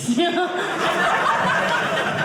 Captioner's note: audience laughing